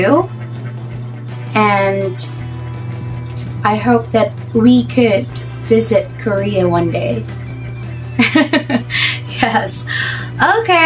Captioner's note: laughter